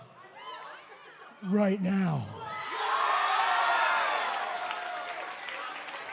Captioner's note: cheers and applause